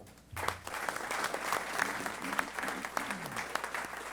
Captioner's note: applause